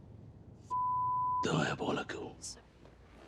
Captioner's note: beep